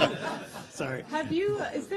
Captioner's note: laughter